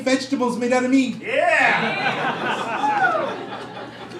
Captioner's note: crowd